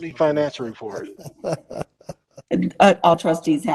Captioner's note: laughter